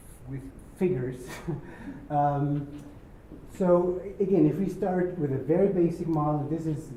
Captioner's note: laugh